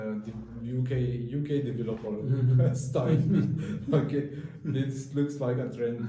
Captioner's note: laugh